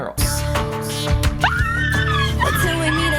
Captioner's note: girls squealing